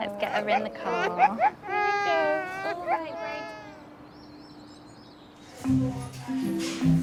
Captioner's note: crying; gentle music